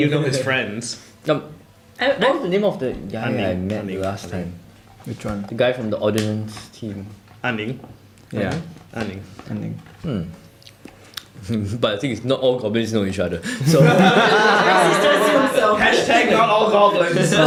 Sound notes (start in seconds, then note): 13.5 laughter